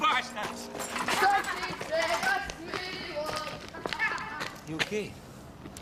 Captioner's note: boys taunting in singsong voice